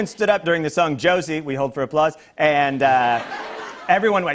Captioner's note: laughter